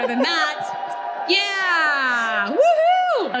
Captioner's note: audience cheering